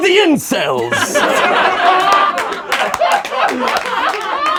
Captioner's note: laughing